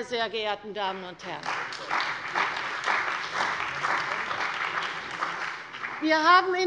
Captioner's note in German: Beifall bei der CDU und dem BÜNDNIS 90/DIE GRÜNEN